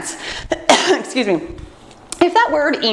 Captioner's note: coughs